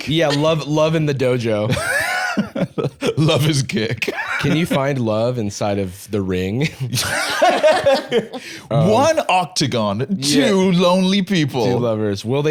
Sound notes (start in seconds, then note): 3.9 laughing; 6.6 laughing